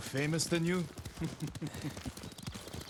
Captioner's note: laughs